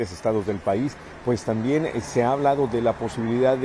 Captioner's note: HABLA EN INGLéS